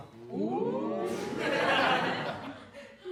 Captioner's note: audience oohs and laughs